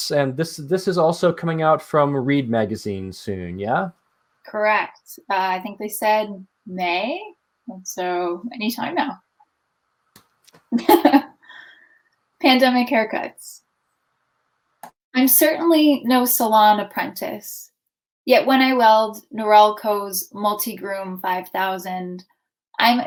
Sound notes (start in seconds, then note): 10.7 laughs